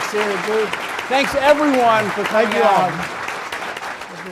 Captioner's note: applause distorting